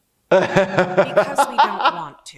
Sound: laughs

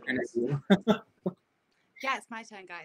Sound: laughs

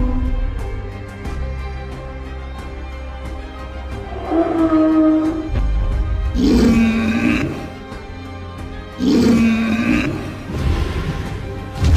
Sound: stegosaurus Sounds

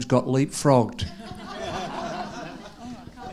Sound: audience laughing

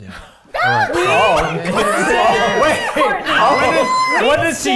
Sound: everyone laughing

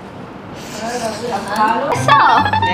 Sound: slurp sound

